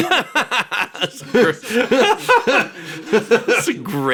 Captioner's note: laughing